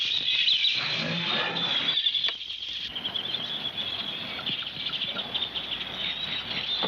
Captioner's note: birds chirping